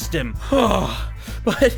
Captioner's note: sigh